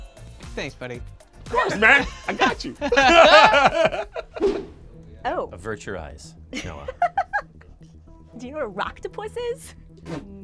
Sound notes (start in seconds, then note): 3.1 group laughs; 6.6 laughs